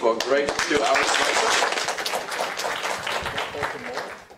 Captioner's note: applause